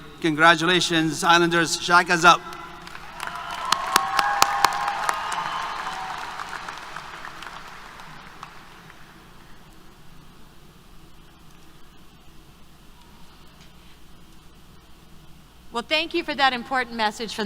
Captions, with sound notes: Congratulations Islander, shockers up. [ Applause, Cheers ] >> Well, thank you for that important message